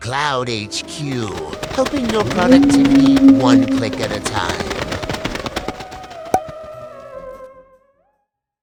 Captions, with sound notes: cloudHQ, helping your productivity one click at a time. (bats flapping) (spooky music)